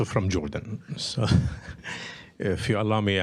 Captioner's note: laughter